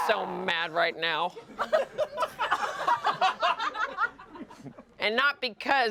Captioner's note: everyone laughs